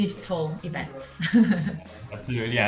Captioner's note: woman laughing